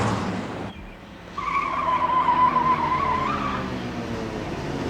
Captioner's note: tires screech